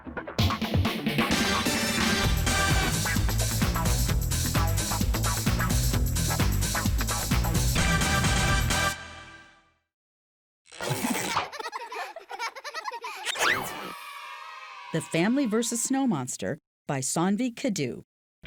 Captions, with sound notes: (bright music) (children laughing) - The Family versus Snow Monster by Cindi Kudu.